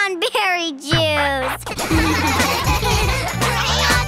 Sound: laughing

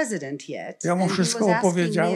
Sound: foreign language

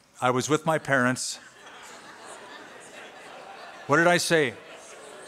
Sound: laughter

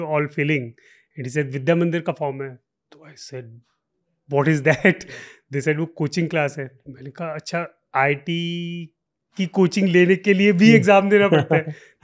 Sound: chuckles

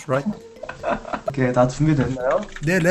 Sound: laughter

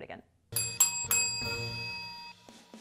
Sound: bells ring

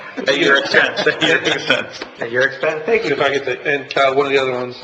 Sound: laughing

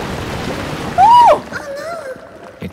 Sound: shouts

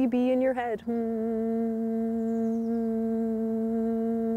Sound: humming

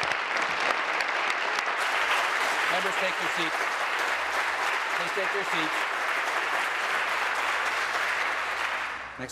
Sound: applause

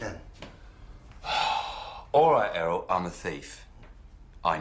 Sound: sighs

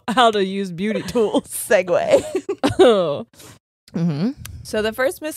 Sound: laughs

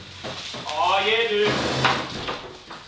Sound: plastic rustling

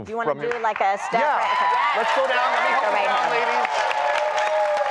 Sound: applause

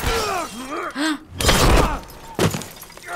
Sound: glass shatters; Joel groans; gasps; thud; Joel screams in pain and whimpers

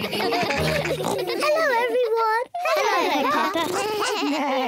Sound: all giggle; oinks; all make animal sounds

